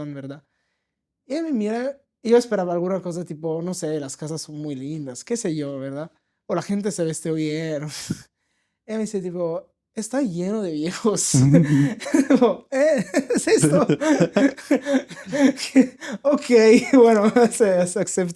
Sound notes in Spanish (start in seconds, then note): 12.8 risas